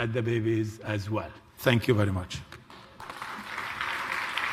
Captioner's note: applause